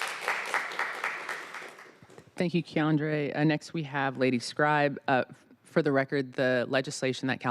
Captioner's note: applause